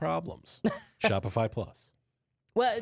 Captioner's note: laughs